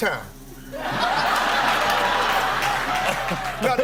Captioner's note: laughter